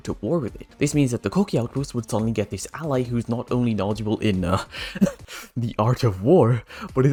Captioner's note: ahem